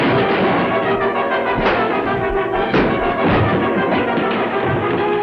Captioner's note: punch lands